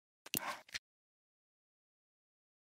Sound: click

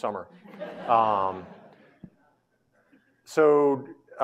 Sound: audience laughing

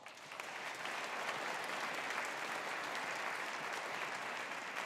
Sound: audience applauding

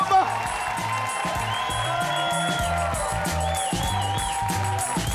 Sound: audience cheer louder

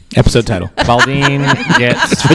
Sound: laughter

